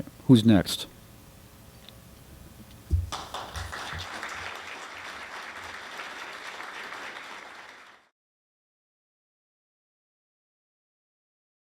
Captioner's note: applause